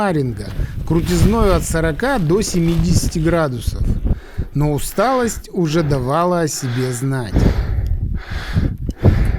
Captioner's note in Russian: вздыхает